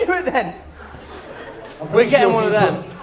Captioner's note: laughter